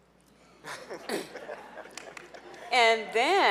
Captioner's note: laughing